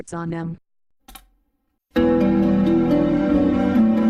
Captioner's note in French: cliquement sur la barre d'espace, musique en cours